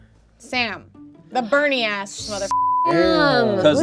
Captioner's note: beep